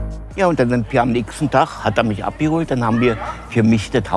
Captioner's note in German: leise Musik; männliche Stimme, Berliner Dialekt